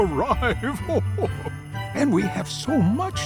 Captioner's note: chuckles